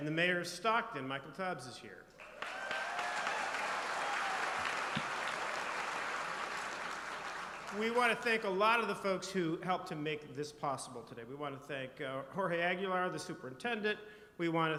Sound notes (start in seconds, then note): 5.1 applause